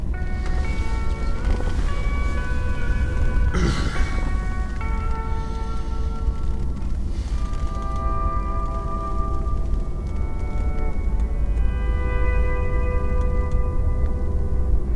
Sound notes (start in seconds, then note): 3.5 grunts